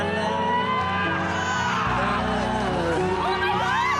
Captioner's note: audience cheering